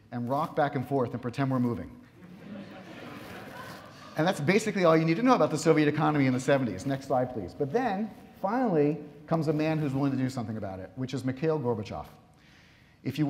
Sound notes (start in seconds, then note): 2.2 audience laughs